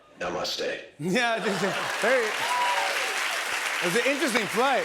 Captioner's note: cheers and applause; laughs